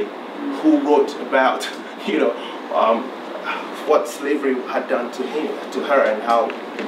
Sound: chuckles

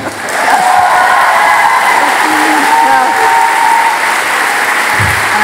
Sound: audience enthusiastically applauding

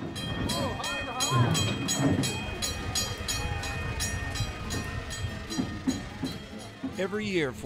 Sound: bell clanging

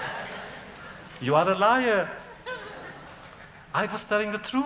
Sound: laughter; laughter

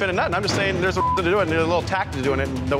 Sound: beep

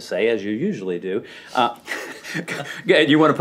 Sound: laughter

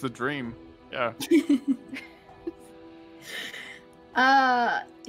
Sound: players laughing

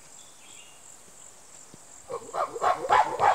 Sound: chimp barking

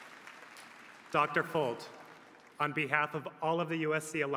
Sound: applause

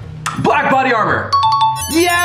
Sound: bell dings

